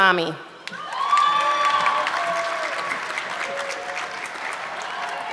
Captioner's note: audience clapping